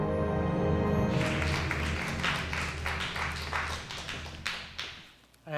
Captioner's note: audience clapping